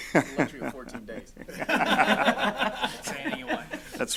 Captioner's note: laughing